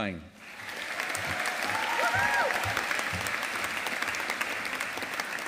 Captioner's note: audience applauding